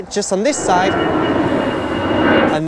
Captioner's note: plane Taking Off